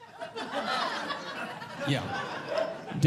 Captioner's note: audience Laughing